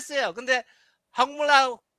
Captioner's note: non-english speech